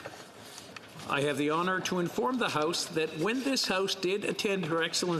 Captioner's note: speaking French